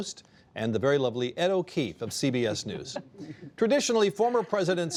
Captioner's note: laughter